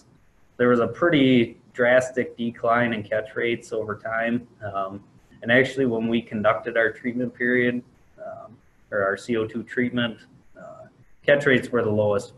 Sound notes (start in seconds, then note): none